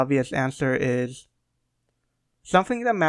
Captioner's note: prolonged silence